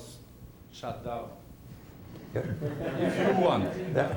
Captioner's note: laughter